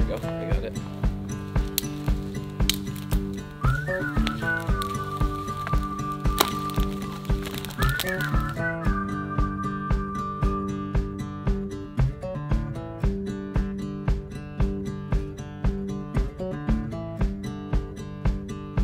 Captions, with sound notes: There we go, I got that. (man whistling brightly)